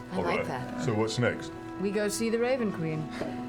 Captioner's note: none